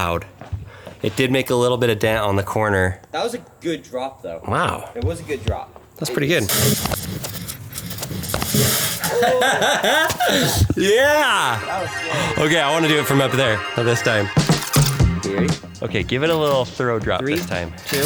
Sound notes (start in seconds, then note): 6.5 coins clanging; 9.0 laughs